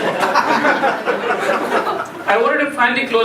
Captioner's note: laughing